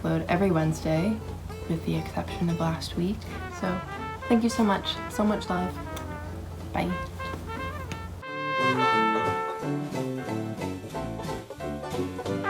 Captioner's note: mwah